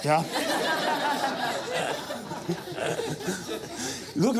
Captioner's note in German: lachen